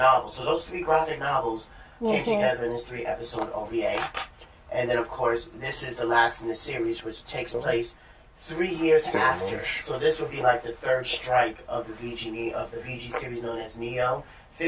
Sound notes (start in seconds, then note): 2.7 sounds of agreement